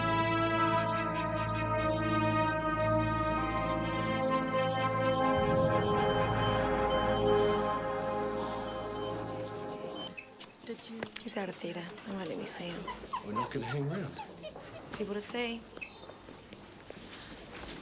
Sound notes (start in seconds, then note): 1.2 machines beeping; 12.6 wolf whining